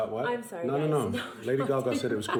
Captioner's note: \laughs\